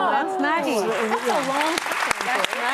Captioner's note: audience applauding